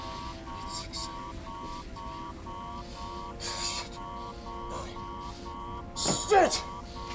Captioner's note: angry mumbling